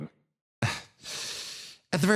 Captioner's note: Gartrinus Sigh